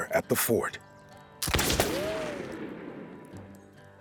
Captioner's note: gunshot